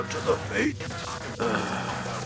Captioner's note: sighs